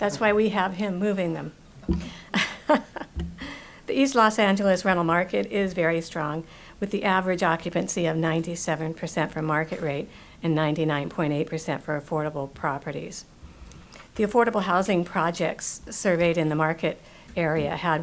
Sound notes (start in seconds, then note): 2.3 laughing